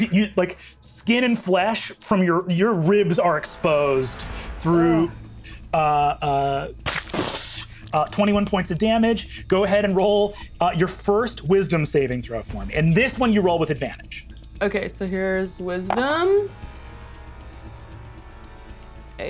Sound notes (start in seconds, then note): 5.1 imitates explosion booming; 16.7 tense music